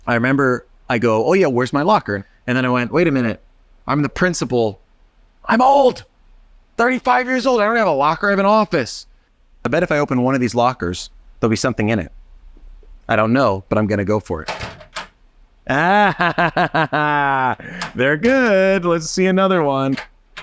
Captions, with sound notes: I remember I go, "Oh yeah, where's my locker?" And then I went, "Wait a minute, I'm the principal, I'm old, 35 years old, I don't have a locker, I have an office." I bet if I open one of these lockers, there'll be something in it. I don't know, but I'm gonna go for it. Ah, [chuckles] they're good. Let's see another one.